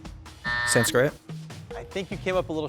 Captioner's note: suspenseful music; buzzer buzzing